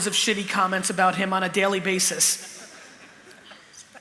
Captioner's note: laughter